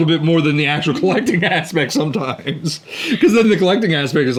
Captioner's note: both laughing